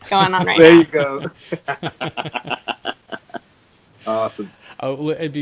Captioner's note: laughing